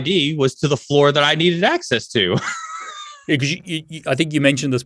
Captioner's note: laughs